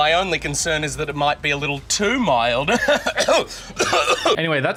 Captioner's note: laughing, coughing